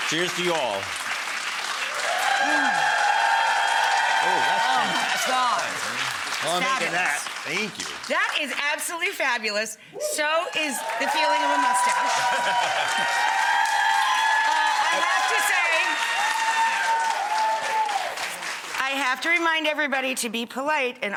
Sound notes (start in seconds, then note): 0.0 audience cheers; 12.2 Paul laughs; 12.4 audience cheers